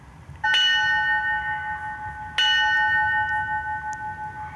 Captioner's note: bell clanging